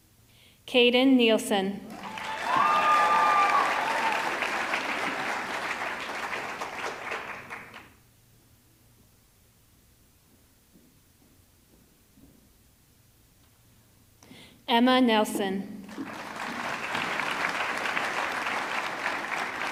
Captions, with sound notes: Caden Neilsen, (audience clapping) (audience cheering) Emma Nelson, (audience clapping)